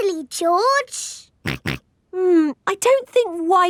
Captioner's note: snorts